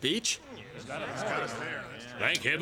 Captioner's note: murmuring